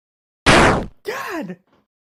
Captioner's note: gasp